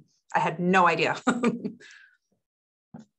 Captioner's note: laughing